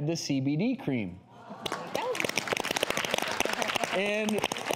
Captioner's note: audience applauding